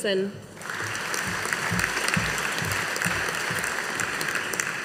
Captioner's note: audience applauding